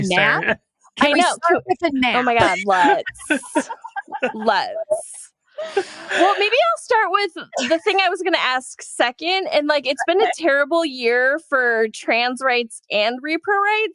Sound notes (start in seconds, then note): 2.1 all laugh